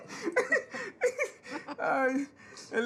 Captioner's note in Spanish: Ríe